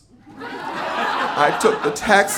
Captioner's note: audience laughing